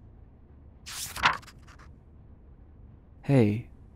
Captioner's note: paper flicks